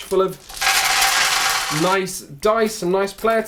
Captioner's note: dice on glass